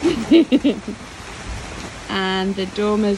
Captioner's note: chuckles